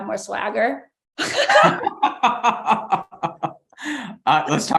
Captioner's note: laughs